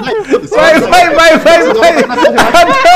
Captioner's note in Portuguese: risos